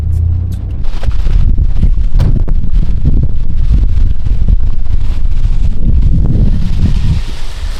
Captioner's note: engine Revving